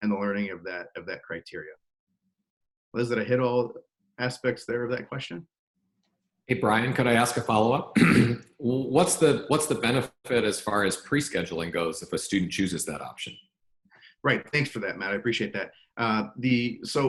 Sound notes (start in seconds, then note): 7.9 clears throat